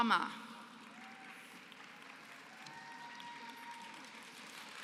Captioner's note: applause